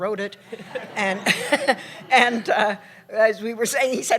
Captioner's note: laughter